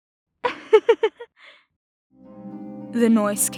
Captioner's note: laughter